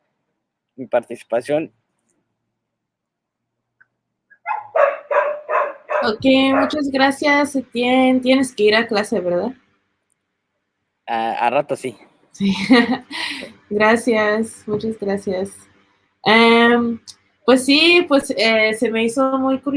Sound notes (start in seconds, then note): 4.4 dog barking; 6.5 speaking Spanish; 11.3 speaking Spanish; 12.4 laughs; 13.7 speaking Spanish